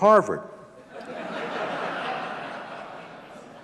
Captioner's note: audience laughing